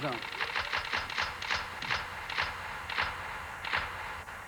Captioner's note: clicking